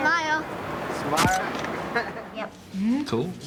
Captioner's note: camera snaps